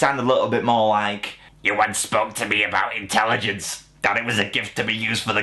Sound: in choked voice

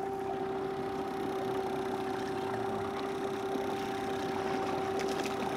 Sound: boat engine idling

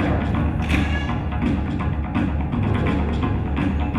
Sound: hands slapping

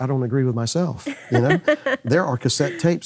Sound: laughing

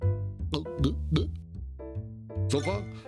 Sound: gulping noises

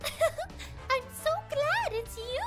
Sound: laughter

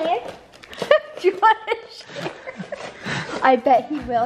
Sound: laughing

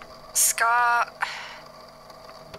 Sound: sighs

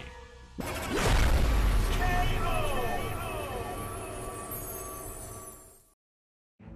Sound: explosion

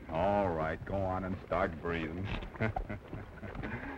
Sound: chuckling

